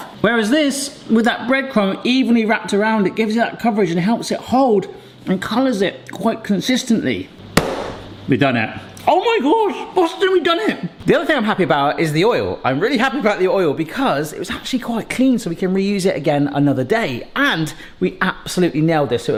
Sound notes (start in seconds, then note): 7.6 slaps counter